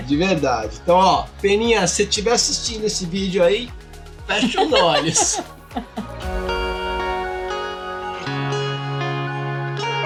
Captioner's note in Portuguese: risadas